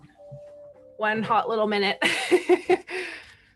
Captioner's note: laughs